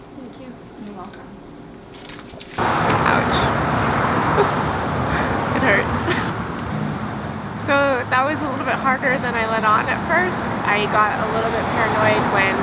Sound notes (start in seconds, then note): 3.8 laughs